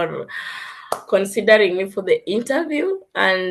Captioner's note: claps